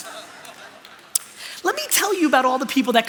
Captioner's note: laughter